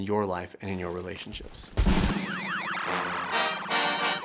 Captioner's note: static crackling; crowd cheering; upbeat jazzy music